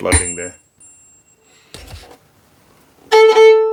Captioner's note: tone from tuning fork; violin plays